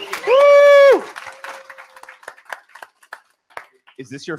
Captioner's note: applause